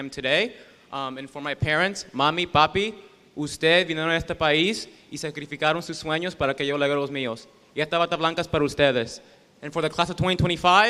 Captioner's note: speaking spanish